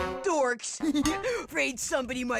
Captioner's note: laughing like an idiot